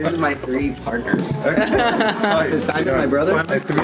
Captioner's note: laughs